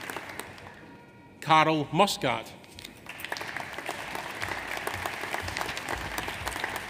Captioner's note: audience applauds